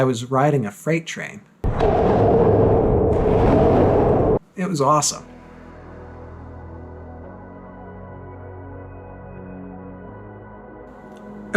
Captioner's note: cavernous echo